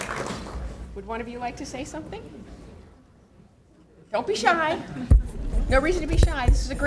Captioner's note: applause